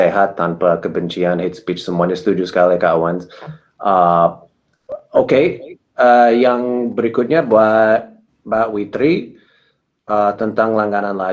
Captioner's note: speaking indonesian